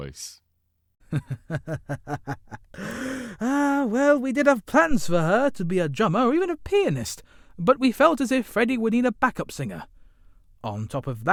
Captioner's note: chuckles